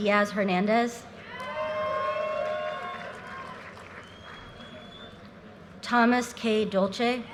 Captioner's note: audience cheers and applause